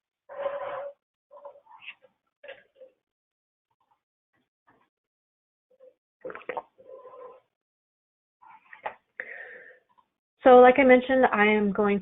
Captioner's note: silence